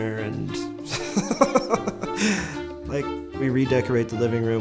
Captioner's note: laughs